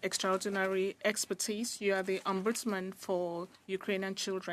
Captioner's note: speaking French